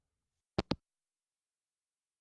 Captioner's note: hangup